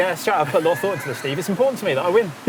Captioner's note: laughs